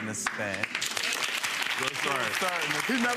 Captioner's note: audience applauds